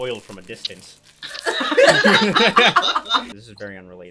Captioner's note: copious laughter